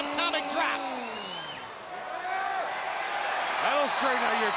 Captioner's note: crowd cheering